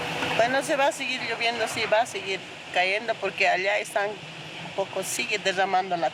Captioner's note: speaking in foreign language